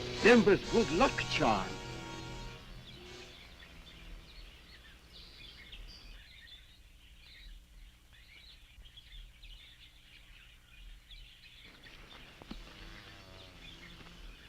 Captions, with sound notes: - Denba's good luck charm! (birds chirping)